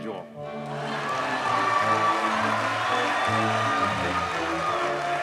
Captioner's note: audience cheers and applauds